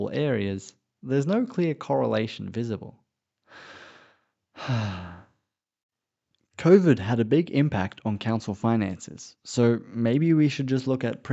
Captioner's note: sighs